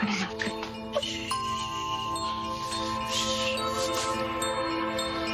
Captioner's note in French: shushing